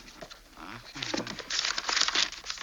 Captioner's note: turns pages